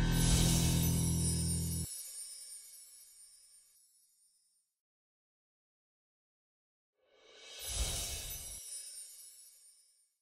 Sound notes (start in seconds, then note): 0.0 chimes ringing; 7.4 chimes ringing